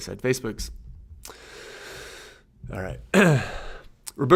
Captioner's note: inhales deeply; clears throat